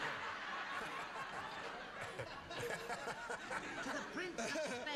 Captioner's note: laughing